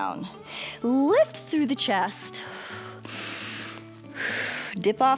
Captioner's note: inhales and exhales